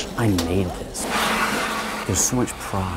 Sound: machine cuts paper

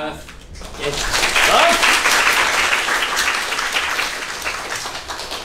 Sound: applause

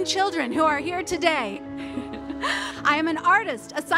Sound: laughs

